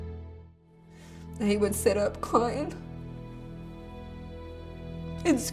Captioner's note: voice breaking